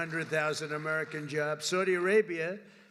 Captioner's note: applause